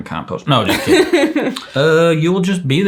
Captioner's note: chuckles